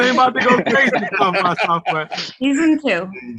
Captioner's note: laughs